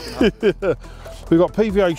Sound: laughs

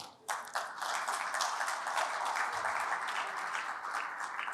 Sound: applause

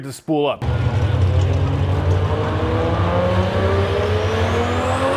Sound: engine roaring

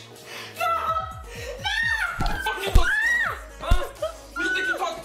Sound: Crystal screaming

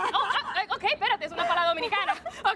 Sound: Risas

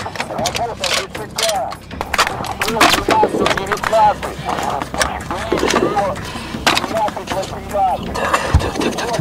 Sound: radio exchange

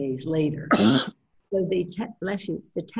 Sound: coughs

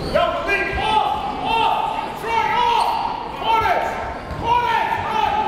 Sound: coaches and players yelling

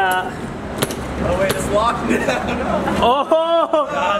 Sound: laughter

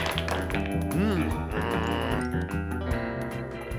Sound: groans

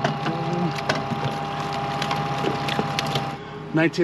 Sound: fish thrashing

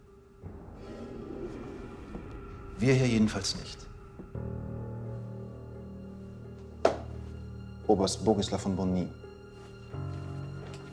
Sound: footsteps clack; solemn music

